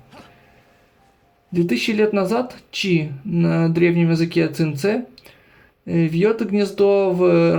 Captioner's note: in the ancient language of Qingce